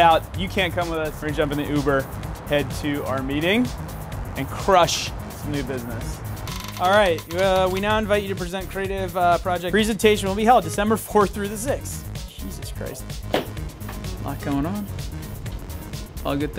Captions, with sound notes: You can't come with us, we're gonna jump in the Uber head to our meeting and crush the new business. Alright we now invite you to present creative project. Presentation will be held December 4th through the 6th. Jesus Christ. (stomps) A lot going on. All good things.